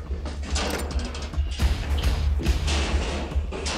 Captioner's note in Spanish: Ruidos con la puerta